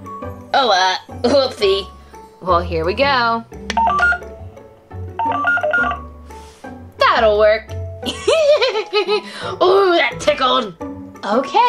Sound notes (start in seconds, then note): 3.6 scanner beeping; 8.0 giggling